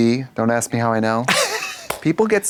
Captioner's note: Katya laughs